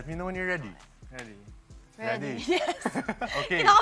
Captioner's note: chuckles